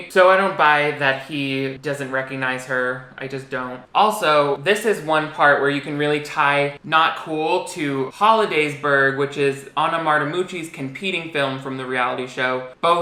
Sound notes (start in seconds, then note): none